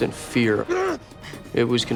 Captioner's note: grunts